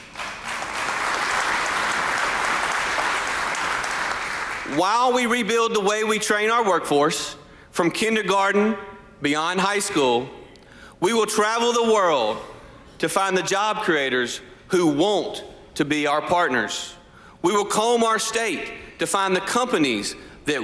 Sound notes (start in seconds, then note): 2.9 applause